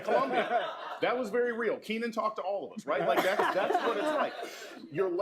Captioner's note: laughter; laughter